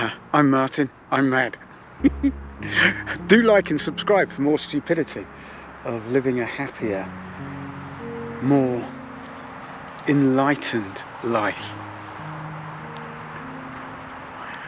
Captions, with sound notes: Uh, I'm Martin. I'm Matt. [chuckling] Do like and subscribe for more stupidity of living a happier, more enlightened life.